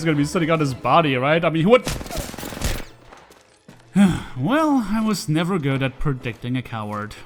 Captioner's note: sigh